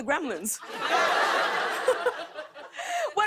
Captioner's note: laughter